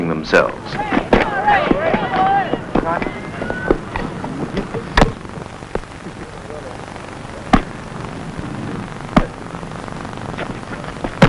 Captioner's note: sounds of people playing ball